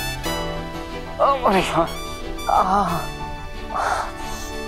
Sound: winces

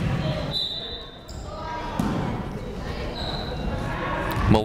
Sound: whistle blowing

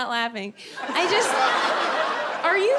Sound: audience laughing

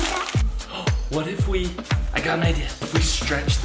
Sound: gasps

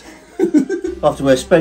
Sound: laughing

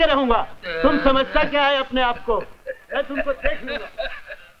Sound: laughs

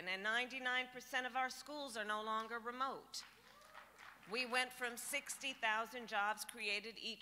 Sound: applause

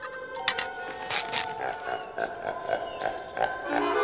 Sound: laughing evilly

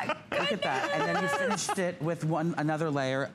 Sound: laughter

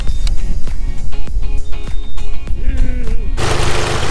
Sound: machine beeping; upbeat music

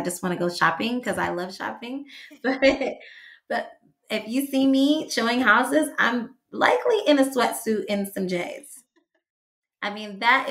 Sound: laughs

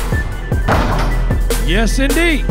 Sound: ball dunking

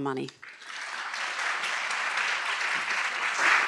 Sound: audience applauds

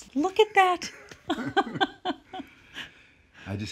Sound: laughing

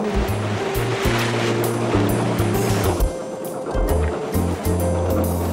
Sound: water splashing; barge chugging

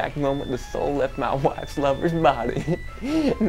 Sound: laughs

